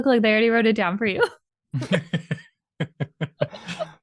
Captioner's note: laughter